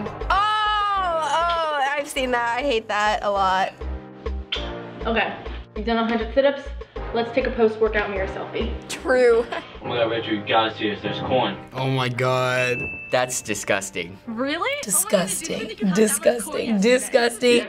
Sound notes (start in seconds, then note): 4.5 smooch